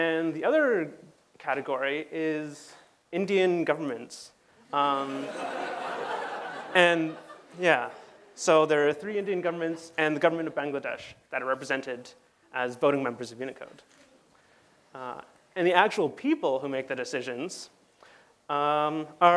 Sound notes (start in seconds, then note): 5.0 laughter